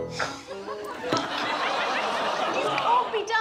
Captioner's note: audience laughs